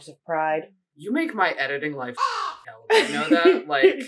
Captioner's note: caw